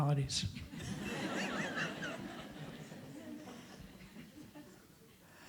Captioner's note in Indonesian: Suara tertawa